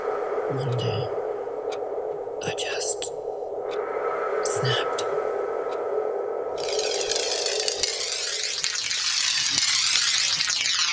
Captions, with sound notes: ...One day... I just... SNAPPED (Disjointed cracking sounds)